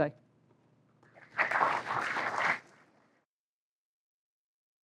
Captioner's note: applause